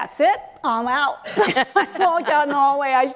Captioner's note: laughter